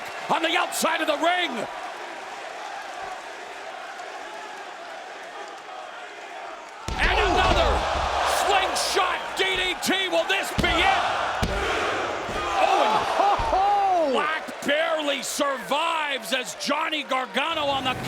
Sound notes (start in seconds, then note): 2.4 crowd chanting; 7.1 mat thumping; 12.5 crowd groaning; 12.6 laughs